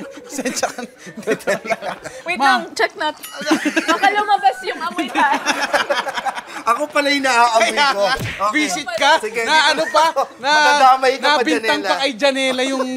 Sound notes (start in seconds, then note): 5.9 laughs